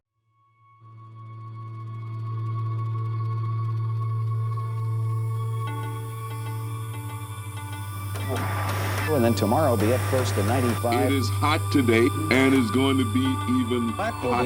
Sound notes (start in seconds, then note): 3.2 buzzing; 8.2 newscaster voices interspersed with static